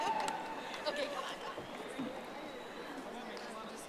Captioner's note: audience applauding